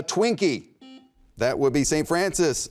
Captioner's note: buzzer beeps